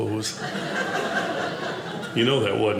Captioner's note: audience laughing